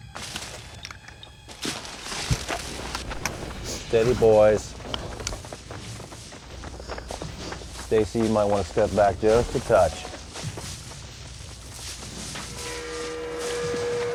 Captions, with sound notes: [ BRANCHES RUSTLING ] STEADY, BOYS. [ RUSTLING CONTINUES ] STACIE, YOU MIGHT WANT TO STEP BACK JUST A TOUCH.